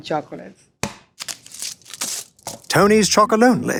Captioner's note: wrapper tears